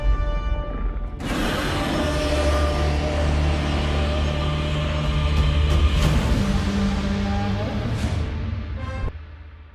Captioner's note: Godzilla Victory Roar